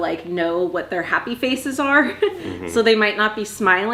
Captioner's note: chuckles